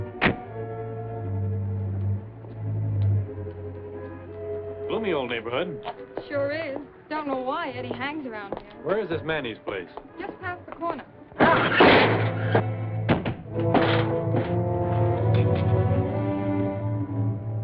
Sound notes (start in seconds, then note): 13.0 thumps; 13.9 tense music